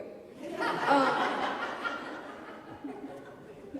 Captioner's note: laughter